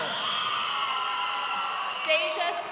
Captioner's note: crowd cheering